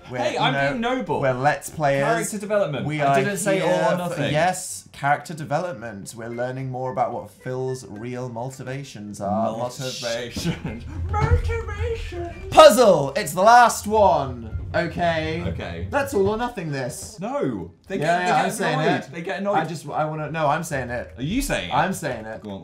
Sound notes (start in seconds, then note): 9.5 mocking; 10.3 giggle